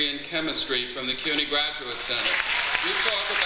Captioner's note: audience applauds